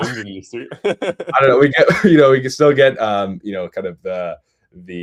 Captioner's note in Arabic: ضحك